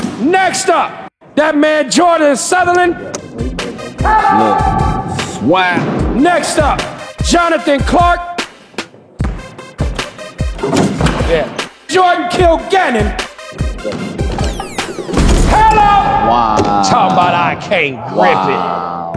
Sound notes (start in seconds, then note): 9.2 ball bouncing; 10.7 dunk sound; 14.4 dunk sound